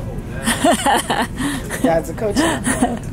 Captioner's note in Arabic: ضحكات خافتة من الكريستال